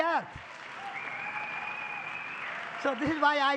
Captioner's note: public applause